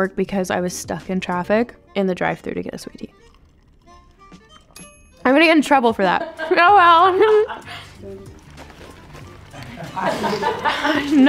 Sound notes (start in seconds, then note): 4.7 bell dinging; 9.5 crew laughing